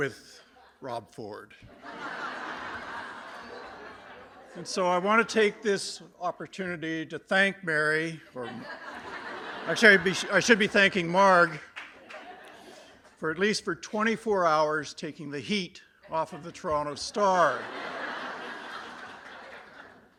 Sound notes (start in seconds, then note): 1.7 laughter; 17.2 laughter